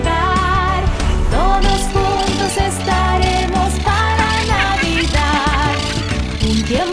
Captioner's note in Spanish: Risas